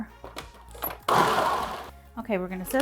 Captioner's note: food processor whirs